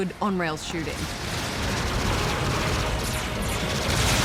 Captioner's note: lasers fire